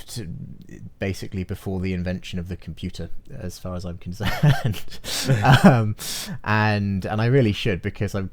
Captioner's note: both laugh